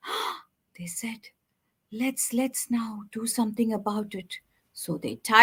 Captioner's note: gasps